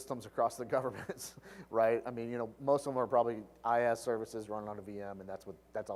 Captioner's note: laugh